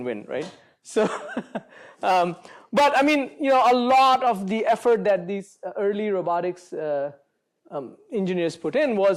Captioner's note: chuckles